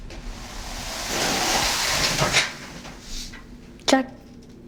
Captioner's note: sliding door scraping